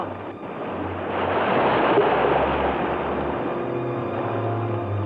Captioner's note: water gushing; soft mysterious music continues